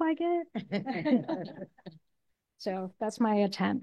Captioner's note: all laughing